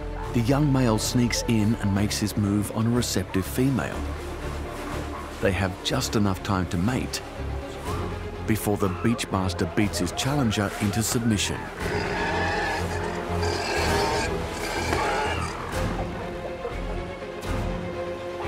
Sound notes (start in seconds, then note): 11.7 roaring; 15.3 dramatic music continues